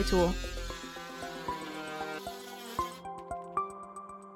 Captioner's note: machine whirring